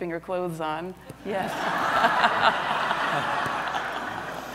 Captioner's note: audience laughs